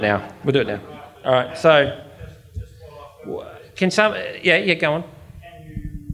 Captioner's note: audience member murmurs